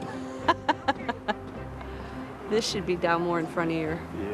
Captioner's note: laughing